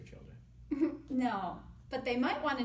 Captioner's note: chuckles